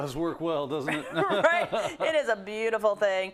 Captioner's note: laugh